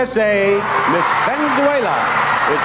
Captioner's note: crowd cheering